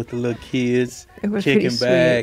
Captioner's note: children chattering in the background